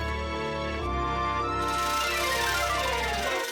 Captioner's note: clicking